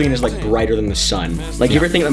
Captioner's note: sizzling